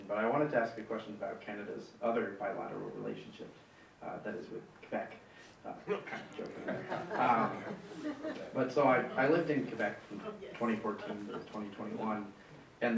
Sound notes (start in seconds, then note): 6.0 audience laughing